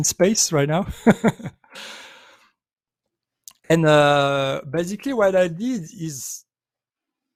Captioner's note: chuckles